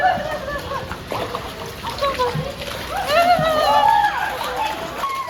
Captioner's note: haha